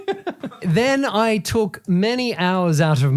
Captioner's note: laughing